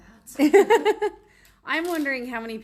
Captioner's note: laughs